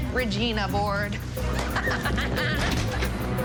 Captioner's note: Wynonna laughing